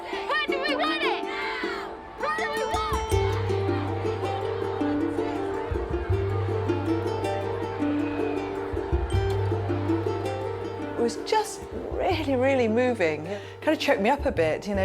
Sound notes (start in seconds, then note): 3.2 indistinct chatter; 5.6 gentle string music